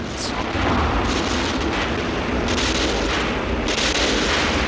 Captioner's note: guns popping